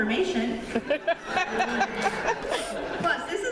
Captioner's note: laughter